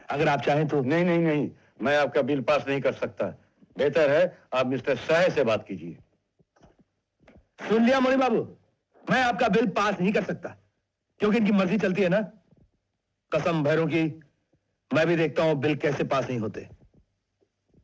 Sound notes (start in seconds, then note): none